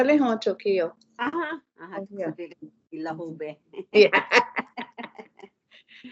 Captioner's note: yeah, laughter